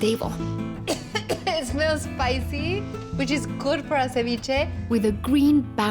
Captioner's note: coughing